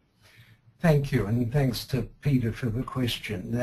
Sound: voiceover

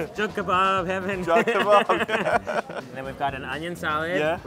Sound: laughs

